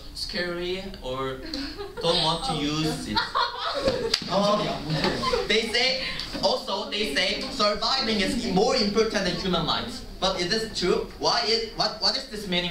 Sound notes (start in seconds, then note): 2.8 laughter